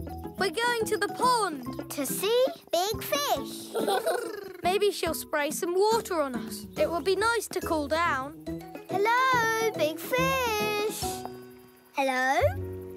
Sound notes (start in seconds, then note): 3.6 Bobble laughs; 3.8 gurdy trills